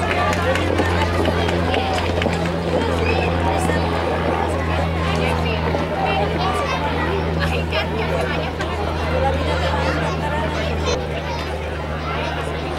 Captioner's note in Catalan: La gent anima; Renou ambient i avió